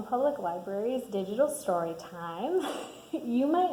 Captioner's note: laughs